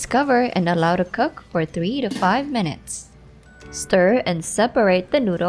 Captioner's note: lid thuds